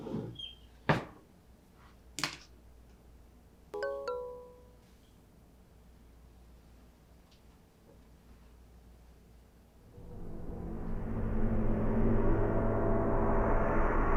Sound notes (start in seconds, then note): 3.7 phone chiming; 9.9 ominous music